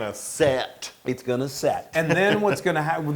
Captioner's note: laugh